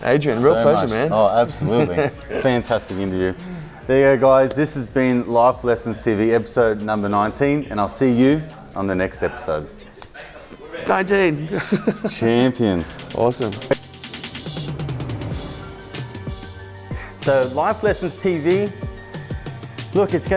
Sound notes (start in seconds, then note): 11.3 laughs; 15.1 upbeat music